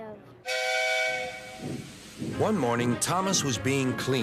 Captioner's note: engine whistles